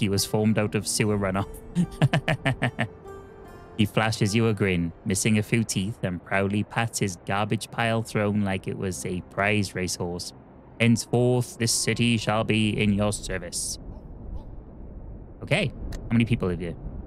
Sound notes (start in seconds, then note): 4.3 laughs